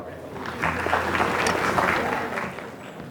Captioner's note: applause